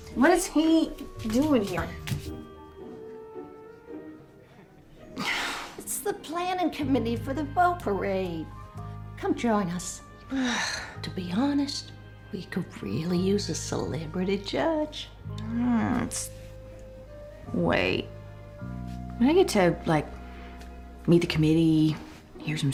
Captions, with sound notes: WHAT IS HEDOING HERE? [SIGHS] IT'S THE PLANNING COMMITTEE FOR THE BOAT PARADE. COME JOIN US. [SIGHS] TO BE HONEST, WE COULD REALLY USE A CELEBRITY JUDGE. [GROANS] WAIT. I GET TO LIKE MEET THE COMMITTEE,